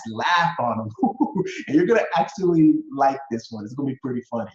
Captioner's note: laughs